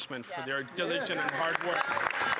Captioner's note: some Applause